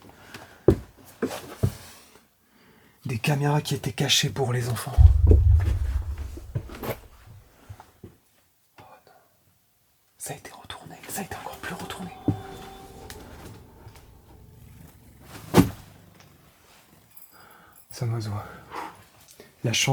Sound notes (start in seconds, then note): 14.5 wing sounds